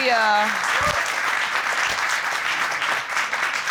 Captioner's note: audience applauding